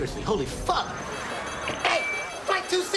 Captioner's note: rapid beeping